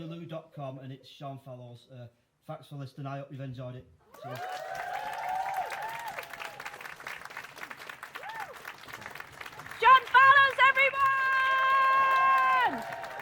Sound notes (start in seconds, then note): 4.1 applause